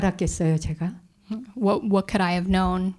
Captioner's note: speaking in Korean